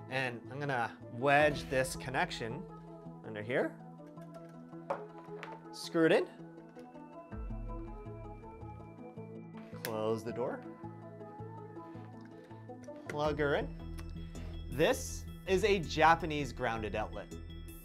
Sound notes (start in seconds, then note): none